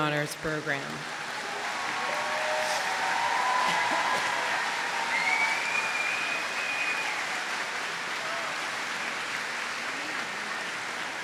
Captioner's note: applause